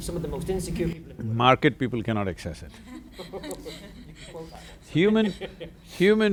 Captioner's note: laughter